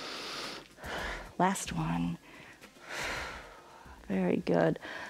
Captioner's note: inhales and exhales; exhales